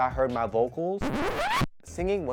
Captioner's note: record scratch